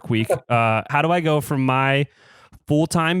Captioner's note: laughs